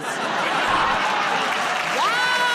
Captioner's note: laughter